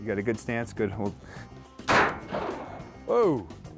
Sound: gun firing

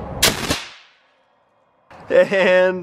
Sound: shoots air cannon

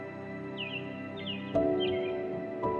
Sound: birds chirping

